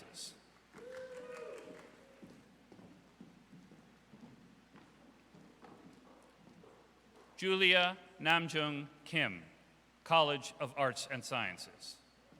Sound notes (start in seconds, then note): 0.7 audience applauds; 0.8 audience cheers